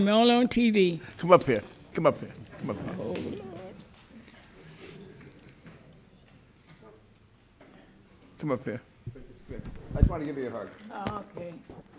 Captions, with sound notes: only on TV. Come up here. Come up here. Oh Lord. (crowd murmurs) Come up here. I just wanna give you a hug. Oh, okay.